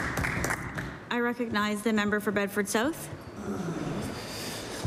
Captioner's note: applause